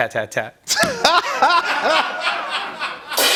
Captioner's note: laughter; cymbal crash